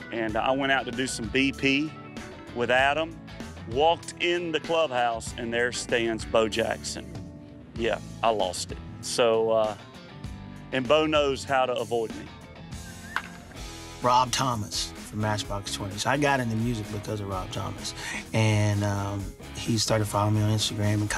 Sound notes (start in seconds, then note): 12.6 upbeat music; 13.1 tapping